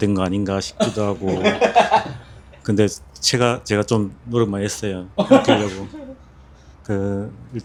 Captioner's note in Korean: 웃음